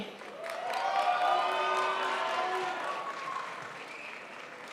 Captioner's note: crowd applauds